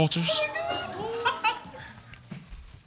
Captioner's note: boy laughs